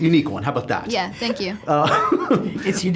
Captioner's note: laughs